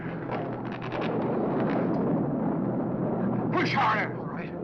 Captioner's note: thunder crashing